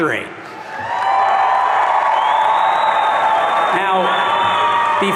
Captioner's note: audience cheering